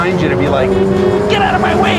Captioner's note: honks